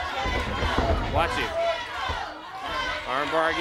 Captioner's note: crowd chatter